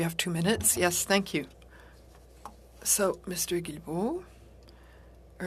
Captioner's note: speaking French